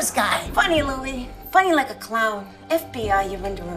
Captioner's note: in a different, deeper voice